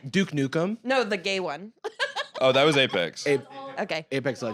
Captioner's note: laughs